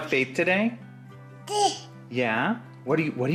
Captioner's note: babbles